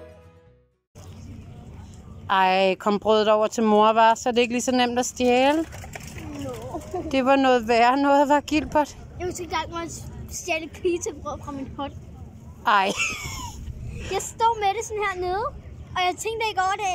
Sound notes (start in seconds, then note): 12.8 laughing